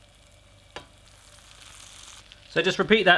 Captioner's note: sizzles